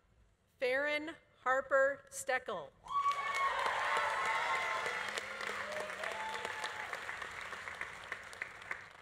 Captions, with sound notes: Faryn Harper Steckiel. (audience applauding) (audience cheering)